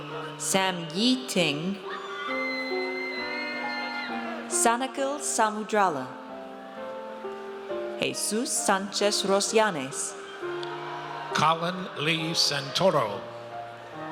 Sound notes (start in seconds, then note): 1.8 audience cheers; 10.1 audience cheers